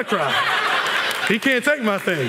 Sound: laughter

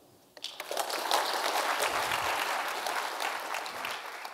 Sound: applause

